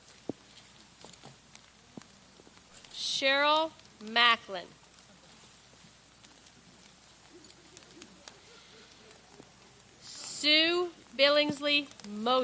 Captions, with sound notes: Cheryl Macklin. (person chuckles) (people laugh) Sue Billingsley Moser.